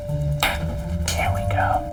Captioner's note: clicks tongue